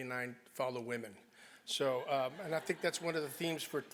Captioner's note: laugh